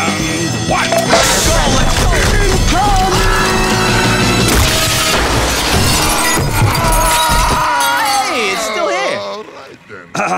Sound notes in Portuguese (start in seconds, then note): 3.4 gritando; 4.5 vidro quebrando, mais gritando